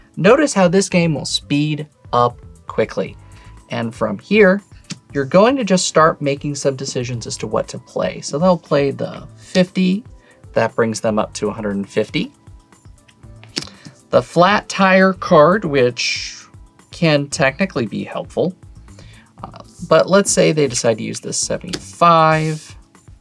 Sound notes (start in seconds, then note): 4.9 card slaps; 13.3 card slaps